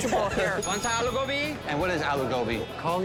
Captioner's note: bell dings